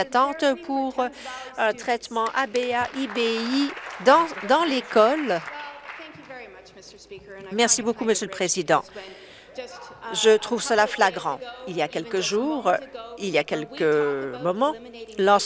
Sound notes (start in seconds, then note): 6.0 some Applause